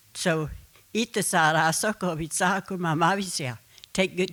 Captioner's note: speaking Comanche